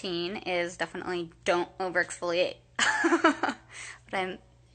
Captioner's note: laughing